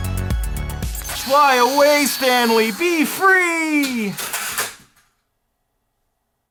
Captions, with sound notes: Fly away, Stanley, be free! (plastic crashing)